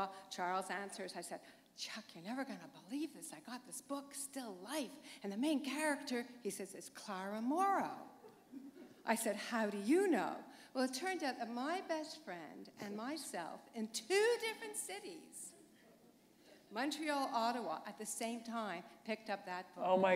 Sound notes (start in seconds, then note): 16.3 chuckle